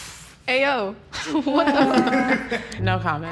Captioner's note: chuckles